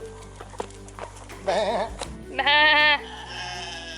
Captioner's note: sheep noises